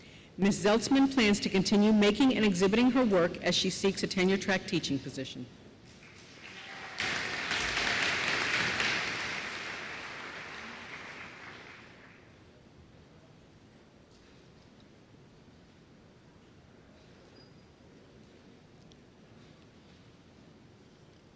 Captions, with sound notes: MS. ZELTZMAN PLANS TO CONTINUE MAKING AND EXHIBITING HER WORK AS SHE SEEKS A TENURE TRACK TEACHING POSITION. [APPLAUSE]